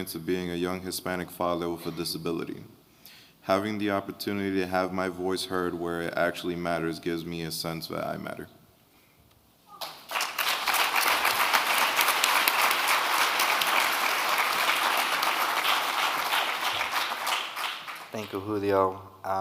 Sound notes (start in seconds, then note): 10.1 audience clapping